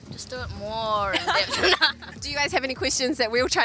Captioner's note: laughs